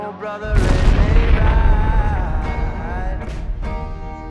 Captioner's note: napalm explodes